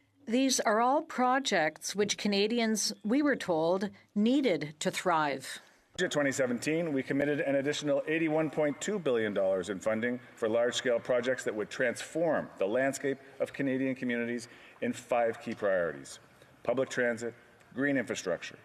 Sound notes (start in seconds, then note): 3.7 speaking in French